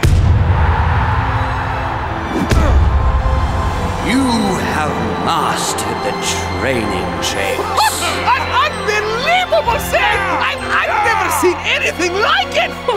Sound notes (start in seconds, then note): 2.2 heavenly music; 8.2 players cheering